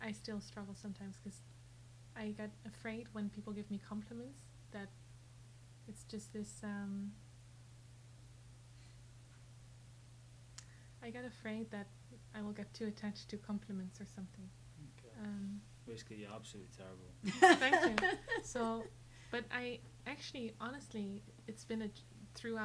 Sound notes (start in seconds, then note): 17.2 laughing